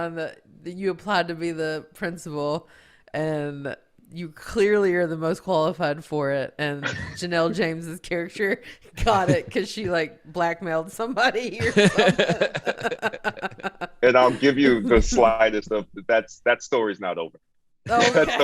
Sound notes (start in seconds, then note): 11.5 all laughing